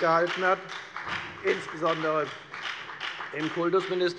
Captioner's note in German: Beifall bei der FDP